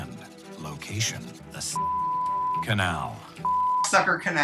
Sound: beep

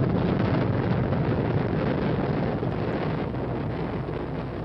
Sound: rocket launchers blasting

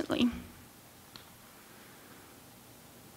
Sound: pause

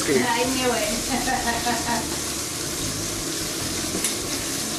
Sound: laughing

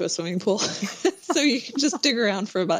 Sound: laughter

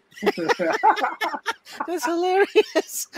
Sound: everyone laughing

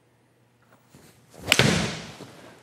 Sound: swish of golf club; thud of golf ball hitting the wall; click of golf ball being hit

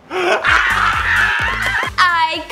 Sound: enthusiastic cheering

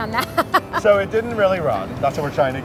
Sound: laughing

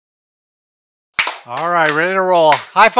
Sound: clapping

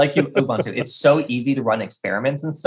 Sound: laughing

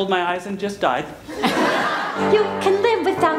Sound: laughter

